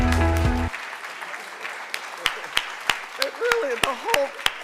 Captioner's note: audience applause